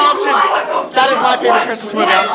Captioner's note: green yelling; yelling